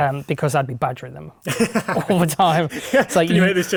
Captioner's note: laughing